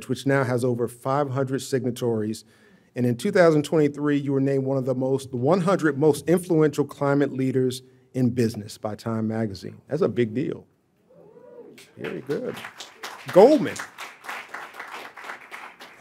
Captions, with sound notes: which now has over 500 signatories. And in 2023, you were named one of the most, the 100 Most Influential Climate Leaders in Business by Time Magazine. That's a big deal. (audience cheering) Very good. Goldman. (audience applauding)